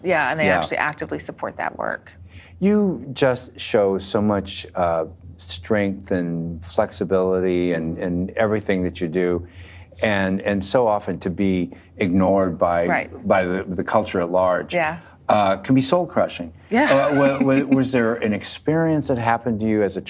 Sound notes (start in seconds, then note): 16.8 laughing